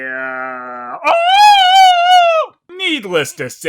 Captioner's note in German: Nachahmung der schreienden Nonnen aus Dingos Glöckner